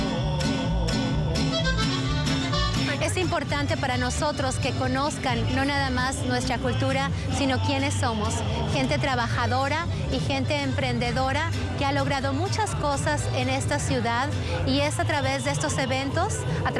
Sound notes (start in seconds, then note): 9.2 speaking spanish